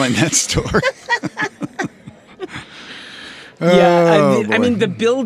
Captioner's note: both laughing